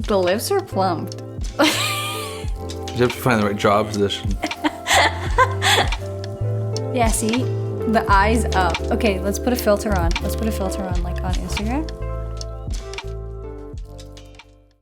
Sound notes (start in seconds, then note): 1.6 laughs; 3.9 laughs; 12.9 gentle music